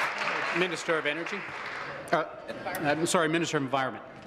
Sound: applause

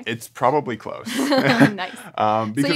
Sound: laughter

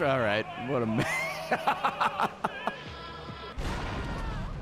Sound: laughs

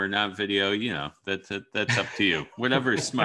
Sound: laughs

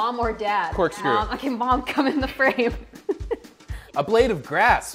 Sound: laughs

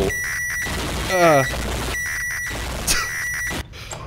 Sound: loud microwave screeches; chuckles

